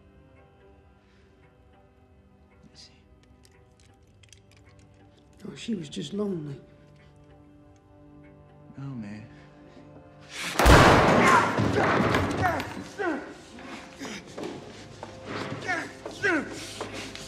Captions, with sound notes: You see? No, she was just lonely. No, man. -[gunshot] -[Preston groans] [groaning]